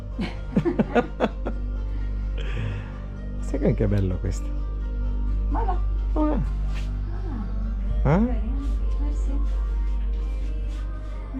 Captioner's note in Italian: Risate